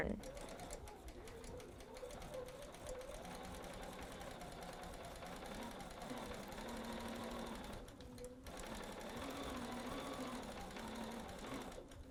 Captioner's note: sewing